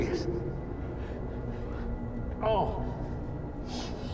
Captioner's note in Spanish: Gruñidos